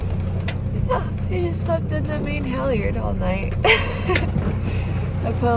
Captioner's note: laughs